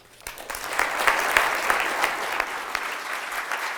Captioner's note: applause